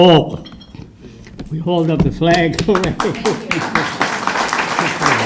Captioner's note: applause